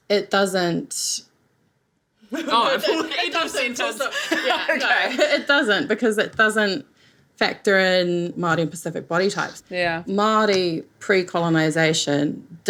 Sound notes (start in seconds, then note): 2.3 laughs